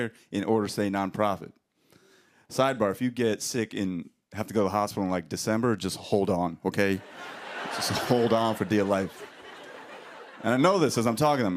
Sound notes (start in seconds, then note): 7.0 laughter